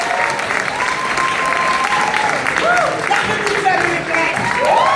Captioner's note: applause